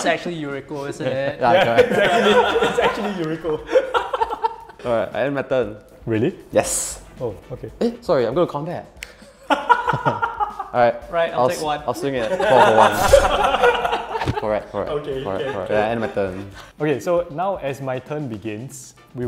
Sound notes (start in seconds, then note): 3.5 players laughing; 9.5 laughing; 12.2 everyone laughing